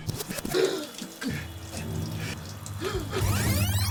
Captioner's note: video rewinds